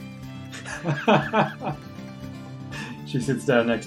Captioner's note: laughs